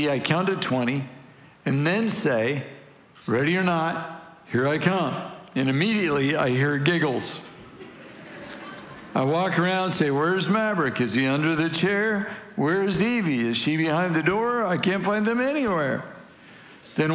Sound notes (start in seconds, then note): 7.5 congregation laughing